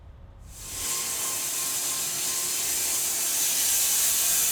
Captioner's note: blade sawing